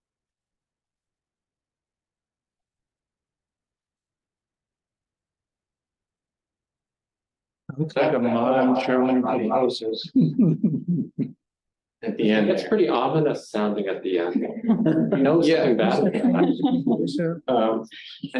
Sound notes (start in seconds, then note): 0.1 silence; 7.5 echoed Voice; 9.9 chuckle